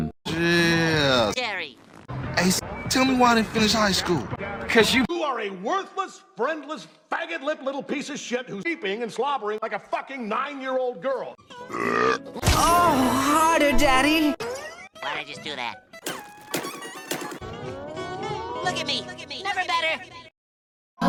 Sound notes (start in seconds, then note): 11.6 burps